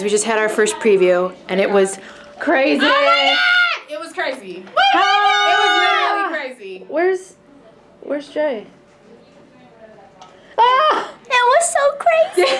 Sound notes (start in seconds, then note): 4.7 cheering; 10.6 exclaiming